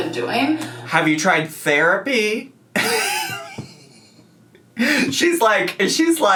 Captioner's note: laughs